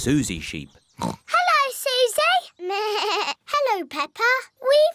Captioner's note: oinks; bleats